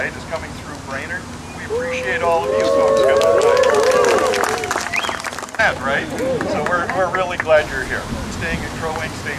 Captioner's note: cheering